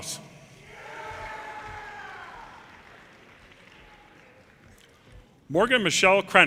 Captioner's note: audience cheers and applause